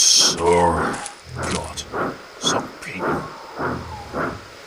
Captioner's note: under breath